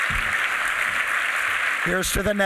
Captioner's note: applause